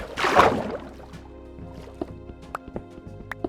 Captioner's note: water splashing